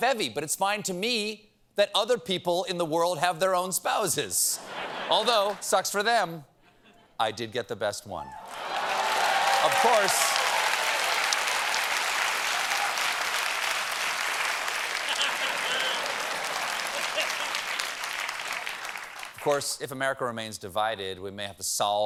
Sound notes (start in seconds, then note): 4.5 laughter; 8.3 cheers and applause